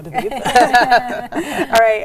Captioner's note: all laughing